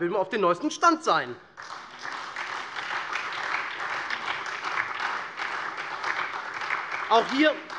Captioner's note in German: Beifall SPD, Freie Demokraten und vereinzelt DIE LINKE